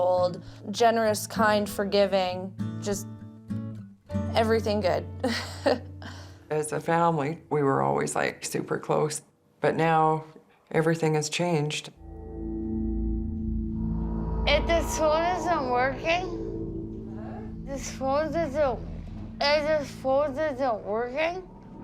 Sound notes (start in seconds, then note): 4.9 laughs; 14.1 slurring